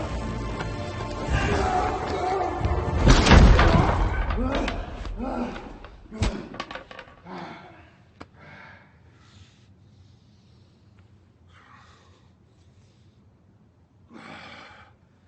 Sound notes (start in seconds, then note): 3.0 table breaking; 5.6 LaFleur breathing heavily